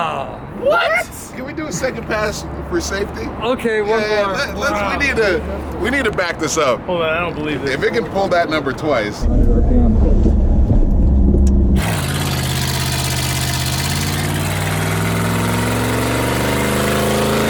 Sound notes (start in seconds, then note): 3.1 loud engine noises